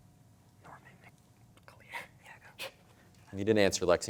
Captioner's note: whispering, chuckling